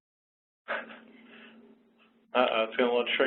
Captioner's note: laughs